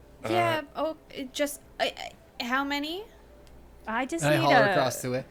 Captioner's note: stammering